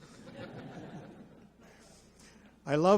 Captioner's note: audience laughs